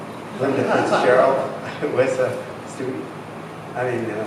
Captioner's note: laughter drowns out speaker